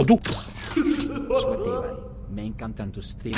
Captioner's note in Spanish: Risa tenebrosa